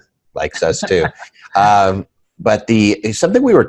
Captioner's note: laughing